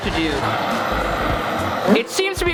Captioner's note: torch blowing